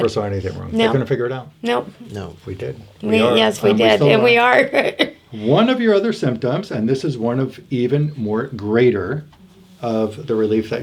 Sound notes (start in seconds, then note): 4.5 laughs